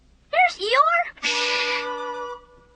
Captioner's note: Rabbit shushes